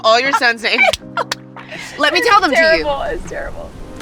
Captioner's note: laughing